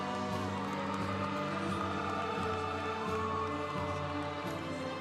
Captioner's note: congregation cheering